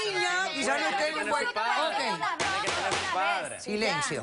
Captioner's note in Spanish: Comentarios al unísono